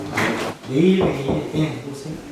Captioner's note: knock, knock